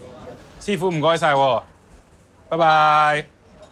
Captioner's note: speaks in foreign language